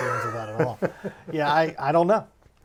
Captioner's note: laughing